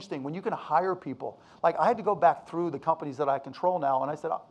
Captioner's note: none